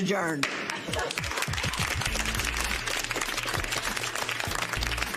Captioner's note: applause